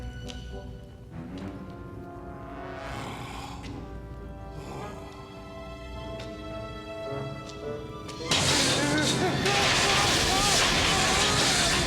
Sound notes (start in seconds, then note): 0.2 gasping; 8.2 electric zapping; 9.9 groaning